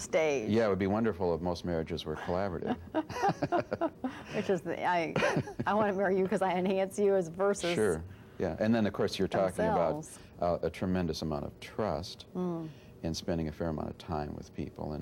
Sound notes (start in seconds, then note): 4.9 laughs